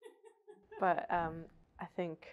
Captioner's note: laughing